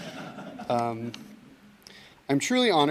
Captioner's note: audience laughs